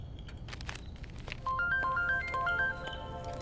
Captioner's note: Phone ringing